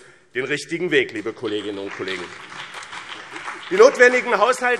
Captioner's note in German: Beifall BÜNDNIS 90/DIE GRÜNEN und vereinzelt CDU